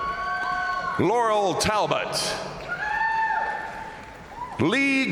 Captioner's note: crowd cheering